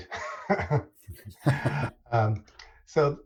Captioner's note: laughter